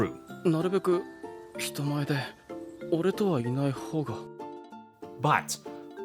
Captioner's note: character speaks in Japanese